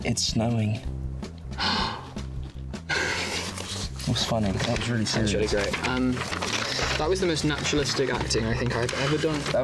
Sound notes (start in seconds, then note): 1.5 Joe gasping